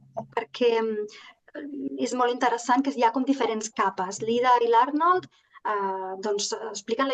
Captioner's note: continues speaking in Catalan